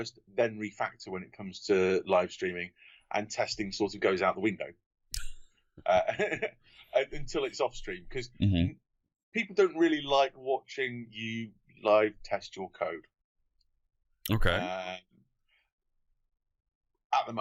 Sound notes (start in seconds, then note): 5.8 laughter